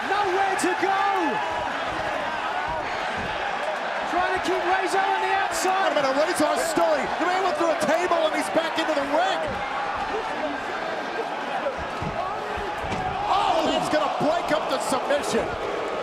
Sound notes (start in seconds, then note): 10.7 crowd chatter